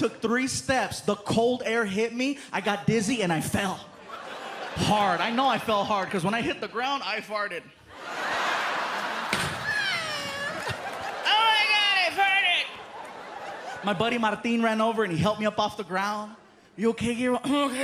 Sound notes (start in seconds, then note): 7.9 laughter; 9.6 mimics fart